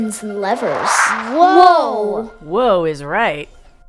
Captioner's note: whoosh sound